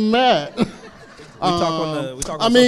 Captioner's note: crowd laughs